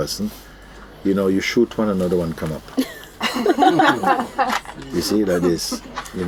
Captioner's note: laughter